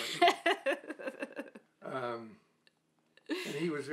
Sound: laughing

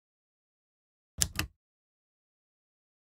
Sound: sound of typewriter

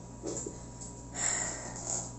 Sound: sigh

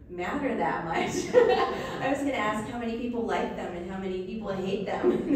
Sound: laughs

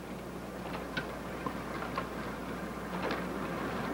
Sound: wheels clacking

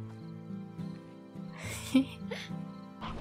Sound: giggling

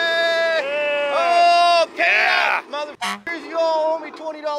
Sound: horn honks

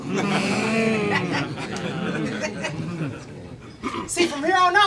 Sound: audience murmurs

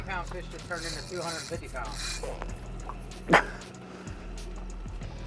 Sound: struggling sounds

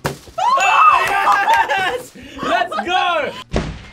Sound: screams

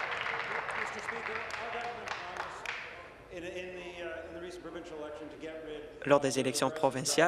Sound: applause

